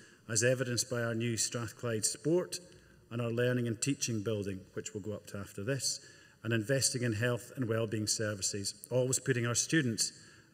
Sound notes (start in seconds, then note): none